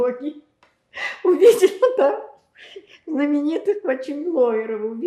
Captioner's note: laughing